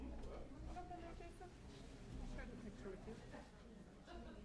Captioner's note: chatter